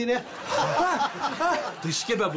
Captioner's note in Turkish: Gülme sesleri